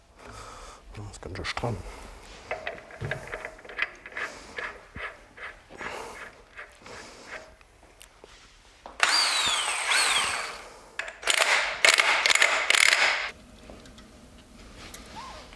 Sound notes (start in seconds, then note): 9.0 drilling noise; 11.0 rattling